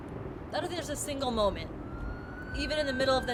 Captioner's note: siren blaring